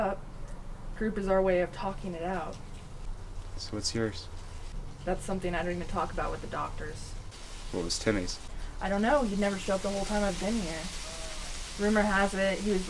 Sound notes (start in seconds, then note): none